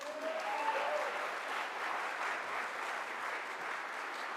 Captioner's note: audience applauds